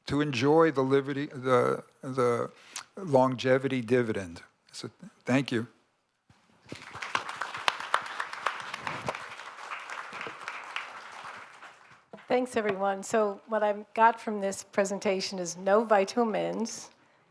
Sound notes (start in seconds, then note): 6.6 applause